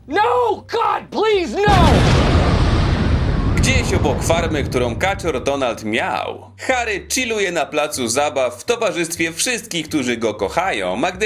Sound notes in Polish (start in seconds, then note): 1.6 boom!